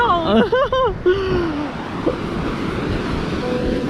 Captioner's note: laughs